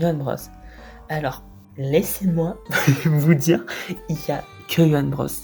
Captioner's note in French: haha